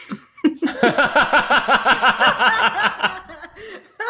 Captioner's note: laughter